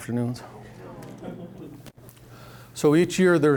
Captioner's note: audience laughing